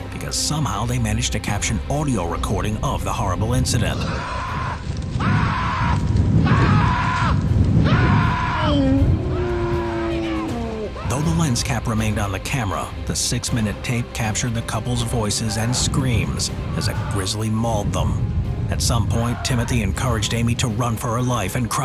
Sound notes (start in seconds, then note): 4.3 screaming; 8.7 bear howling